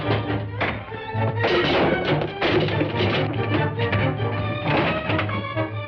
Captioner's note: cans clattering; punch thuds; thuds